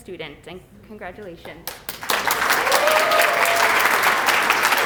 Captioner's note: applause